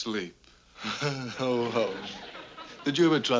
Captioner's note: chortles